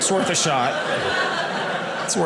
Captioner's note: audience laughing